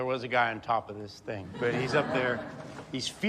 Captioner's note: audience laughs